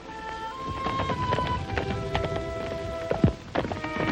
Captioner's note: hooves clomping